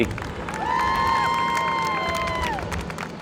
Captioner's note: applause